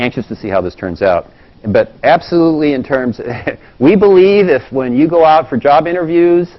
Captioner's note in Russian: смеется